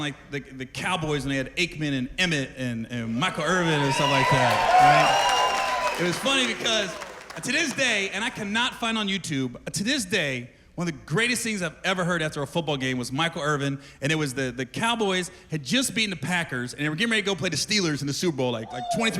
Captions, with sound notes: I used to love watching, like, the Cowboys when they had Aikman and Emmitt and--and-- Michael Irvin and stuff like that. -[cheers and applause] -It was funny because to this day--And I cannot find on YouTube, to this day one of the greatest things I've ever heard after a football game was Michael Irvin. And it was the--the Cowboys had just beaten the Packers and they were getting ready to go play the Steelers